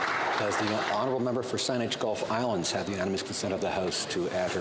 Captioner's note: applause